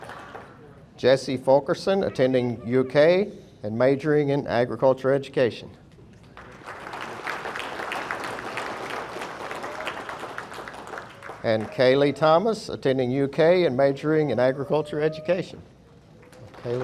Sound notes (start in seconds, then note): 6.3 audience applauding